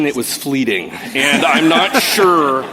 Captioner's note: laughter